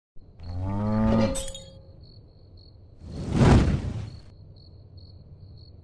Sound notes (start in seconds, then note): 0.2 crickets chirp; 0.4 cow moos; 1.2 glass breaks; 3.1 air whooshing